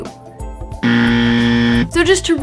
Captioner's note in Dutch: Buzzer geluid